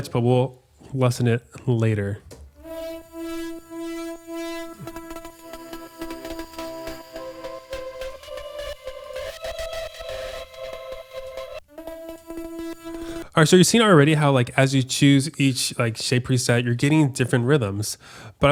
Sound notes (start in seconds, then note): 3.0 electronic horns; 11.3 synthesizer music